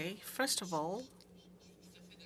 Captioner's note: speaking French